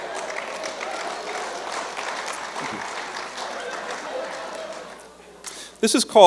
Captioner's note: laughter; applause